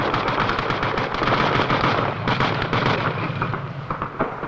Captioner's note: tank rumbling